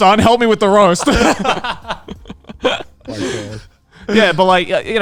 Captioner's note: group laughs